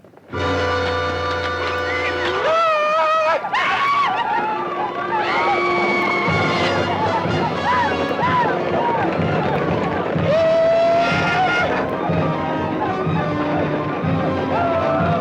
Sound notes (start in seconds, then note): 0.3 dramatic orchestral music; 2.2 Red Hawk howls; 10.2 Red Hawk howls